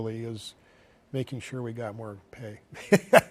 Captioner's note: laughs